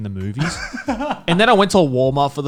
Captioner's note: laughing